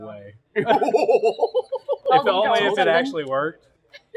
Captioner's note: general pandemonium